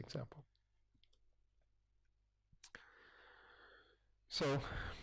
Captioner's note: pause